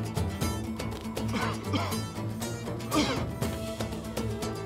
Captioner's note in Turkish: Öksürme sesi